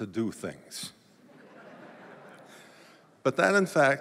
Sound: laughter

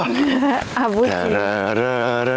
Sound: laughing

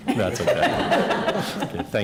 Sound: laughter

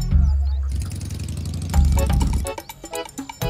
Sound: engine whirring

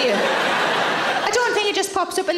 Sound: audience laughs

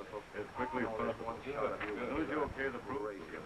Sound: indistinct chattering

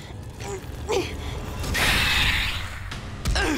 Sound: grunting; hissing; grunting

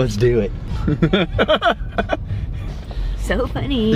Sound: chuckle

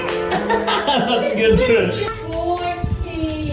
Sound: laughs

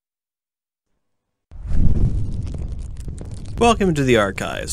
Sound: torch Whooshing Sounds; footsteps

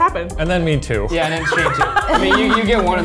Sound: laughing

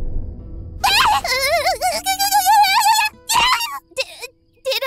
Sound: Embarrassed Priestess Noises

